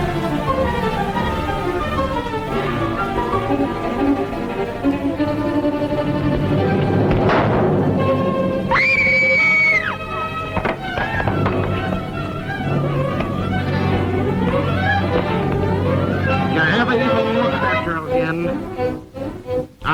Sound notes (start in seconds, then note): 7.2 blow thuds; 8.7 Chloe screams; 10.4 men scuffling